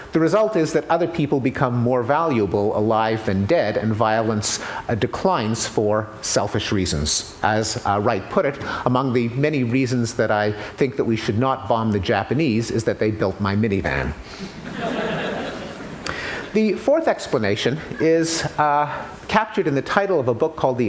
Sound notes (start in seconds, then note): 14.5 laughter